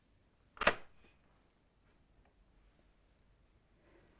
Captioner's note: latch snaps